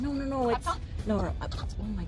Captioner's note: muttering